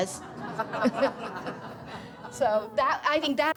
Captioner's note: laughter